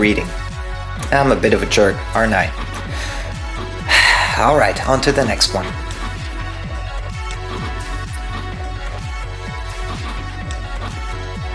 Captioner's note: sigh